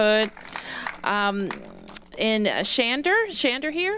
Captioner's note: cheers and applause